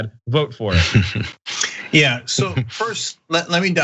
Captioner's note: laugh